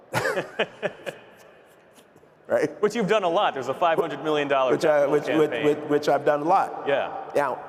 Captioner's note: laughter